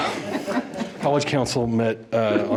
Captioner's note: board chuckling